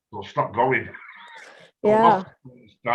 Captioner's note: laughs